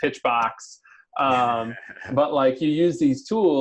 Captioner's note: laughs